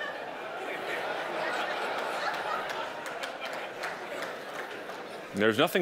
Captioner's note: audience applauding